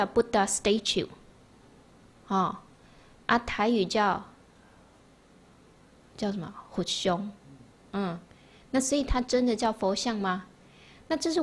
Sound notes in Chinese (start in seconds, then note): 6.9 台語